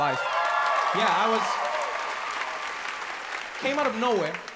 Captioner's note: audience cheers